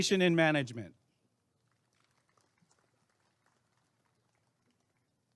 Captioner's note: applause and cheering